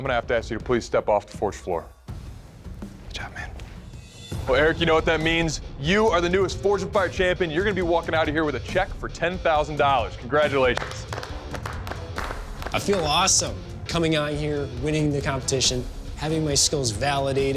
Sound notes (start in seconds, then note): 10.7 applause